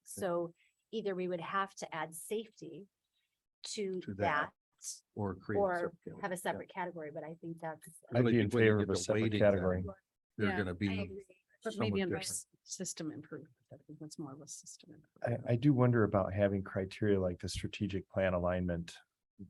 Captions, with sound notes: So either we would have to add safety to that or have a separate category but I think that's. >>I would be in favor of a separate category. They're gonna be. (indistinct conversation) >>System improve. I think that's more of a system improve. >>I do wonder about having criteria like the strategic plan alignment,